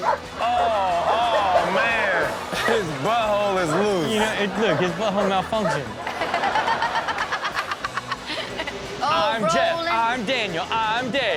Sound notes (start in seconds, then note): 6.2 everyone laughs